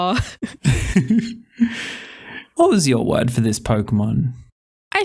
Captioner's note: laughing